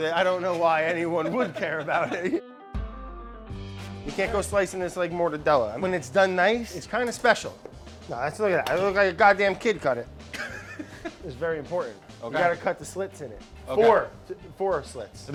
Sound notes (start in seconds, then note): 2.9 upbeat music; 10.3 laughing